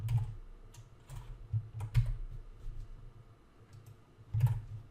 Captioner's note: keyboard clacking